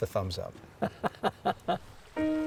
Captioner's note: chuckles; cheerful mid-tempo piano music